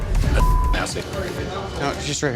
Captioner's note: beep